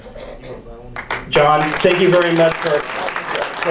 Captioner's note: audience applauds